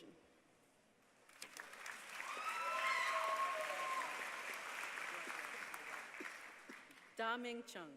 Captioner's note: applause